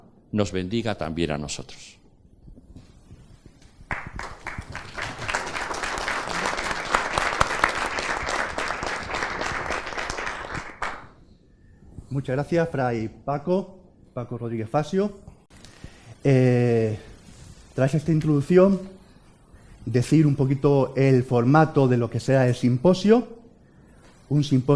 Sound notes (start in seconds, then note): 3.8 applause